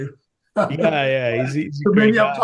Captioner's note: laughs